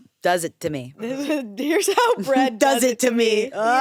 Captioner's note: laughs